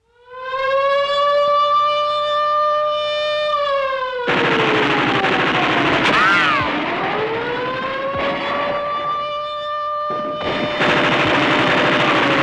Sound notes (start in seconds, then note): 0.6 siren blaring; 4.2 guns firing